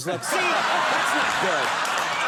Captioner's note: audience roars with laughter